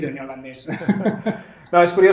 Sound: laughs

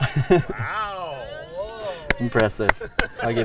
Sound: crowd murmuring

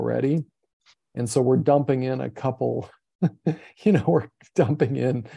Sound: chuckles

